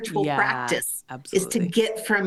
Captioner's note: laughing